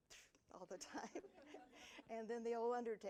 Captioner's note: audience laughing